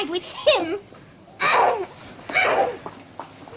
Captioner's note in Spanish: Refunfuña